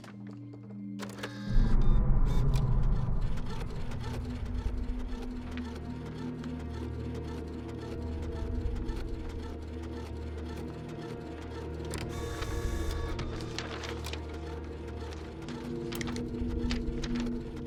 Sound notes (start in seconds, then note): 0.7 printer whirring; 1.0 beeping; 14.4 whirring continues